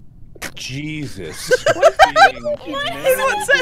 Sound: laughter

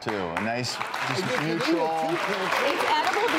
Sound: applause

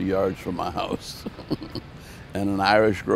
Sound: chuckling

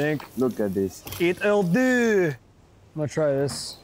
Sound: exclaiming in foreign language

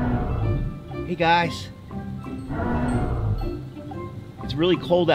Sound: animals moan

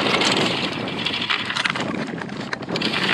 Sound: noise from the anchor chain

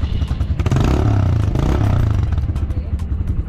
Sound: engine starts up and revs

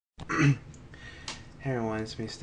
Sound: clears troat

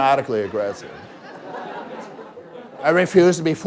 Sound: laughter

